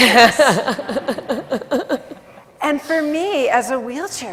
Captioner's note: laughs